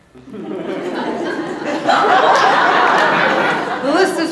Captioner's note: audience laughs